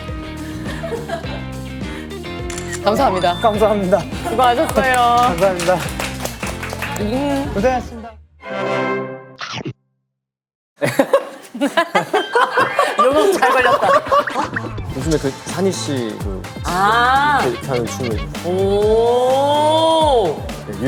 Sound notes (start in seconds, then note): 10.8 still laughing brightly